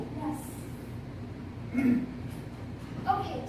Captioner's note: Axel clears throat